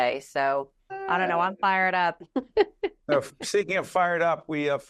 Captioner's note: laughing